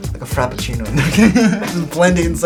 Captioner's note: laughs